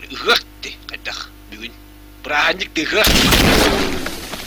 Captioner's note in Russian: выстрел